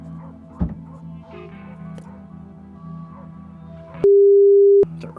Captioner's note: car door closing